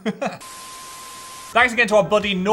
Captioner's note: laughing; screen beeping